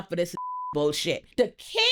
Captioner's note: beep